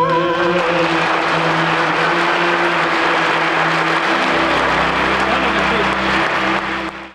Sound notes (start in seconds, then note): 0.0 audience applauding